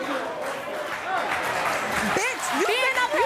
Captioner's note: applause